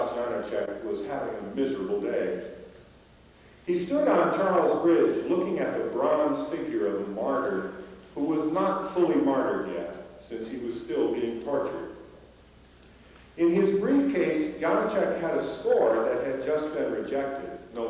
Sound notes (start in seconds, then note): none